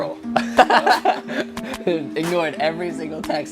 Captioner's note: laughter